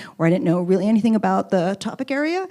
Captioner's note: none